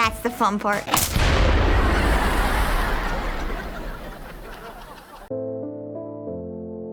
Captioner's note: explosion; audience laughs